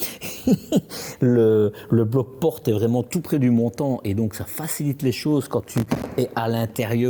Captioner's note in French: rires